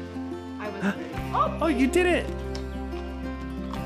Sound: gasps

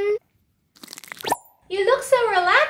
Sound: peeling sound

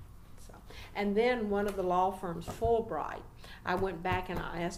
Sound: resumes tapping table with every word

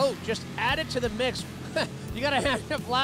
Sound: laughter

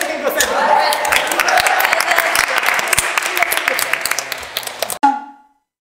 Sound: clapping and cheering

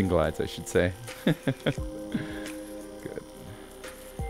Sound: chuckles

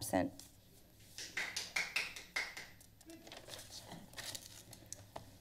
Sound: members applauding

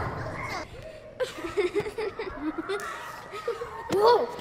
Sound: children laughing

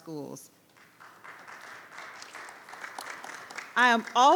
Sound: audience applauds

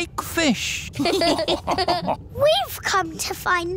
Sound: all laughing

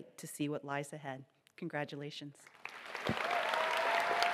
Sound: applause

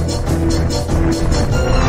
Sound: clomp

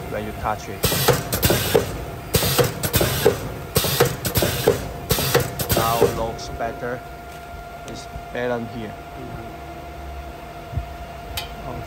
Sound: cutter sound

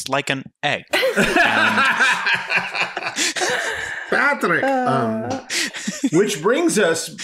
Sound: laughing

